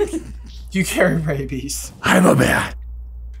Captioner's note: laughing